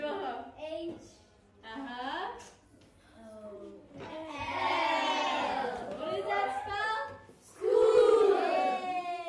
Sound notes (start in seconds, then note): 0.8 kids laughing